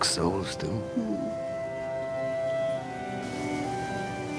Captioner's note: <i> sighs</i>